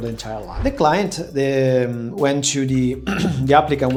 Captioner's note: clears throat